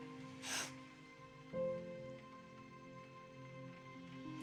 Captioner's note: sobbing